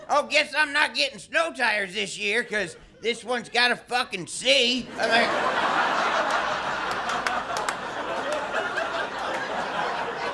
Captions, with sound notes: "Oh guess I'm not getting snow tires this year, 'Cause this one's gotta fucking see! [ Audience laughter ] [ claps, claps ]